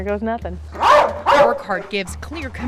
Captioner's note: dog barking